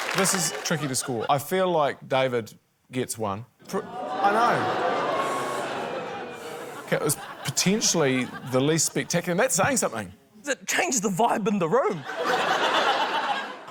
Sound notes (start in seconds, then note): 3.8 audience boos; 12.0 laughter